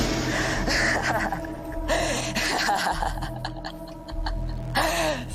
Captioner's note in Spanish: Risas